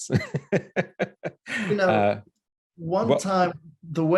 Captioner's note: laughs